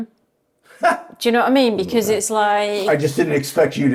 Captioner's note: chuckling